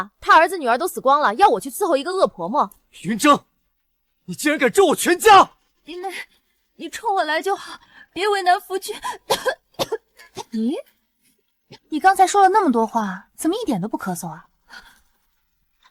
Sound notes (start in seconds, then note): 9.1 cough, cough